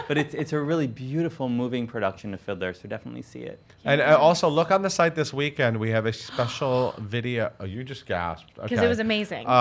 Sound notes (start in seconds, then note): 6.2 gasps